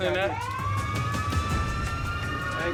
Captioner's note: siren wailing